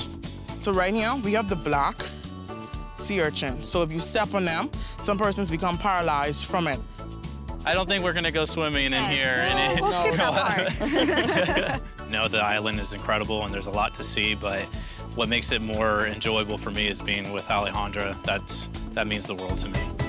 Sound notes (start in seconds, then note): 9.7 laughter